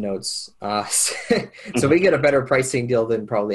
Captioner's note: laughs